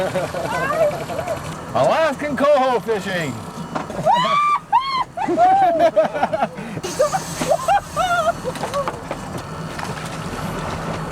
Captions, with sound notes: [laughter] [indistinct chatter] Alaskan Coho fishing.